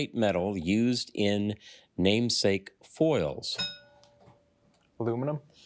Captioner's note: bell dings